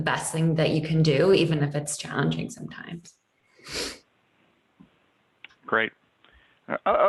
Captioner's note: sniffing